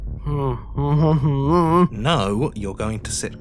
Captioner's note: whimpers